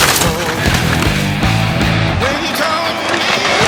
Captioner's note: wood breaking; wood crumbling